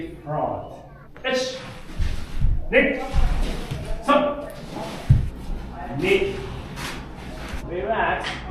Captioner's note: speaking Japanese